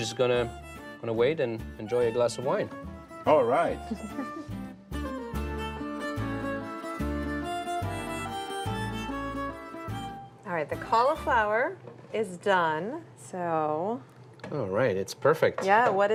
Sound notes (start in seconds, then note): 3.7 chuckles